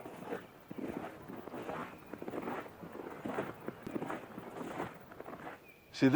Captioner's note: snow crunching